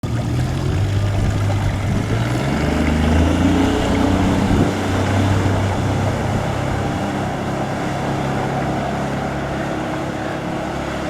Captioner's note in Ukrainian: Звук моторного човна